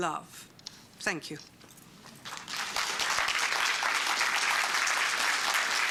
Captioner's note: applause